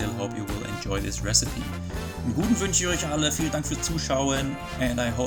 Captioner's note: talking German